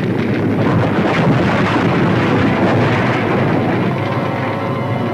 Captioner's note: debris clattering; dramatic music